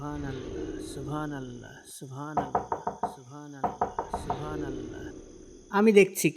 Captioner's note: knocking sound